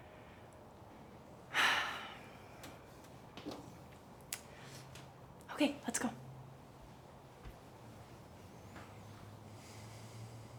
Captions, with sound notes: (woman sighs) - Okay, let's go.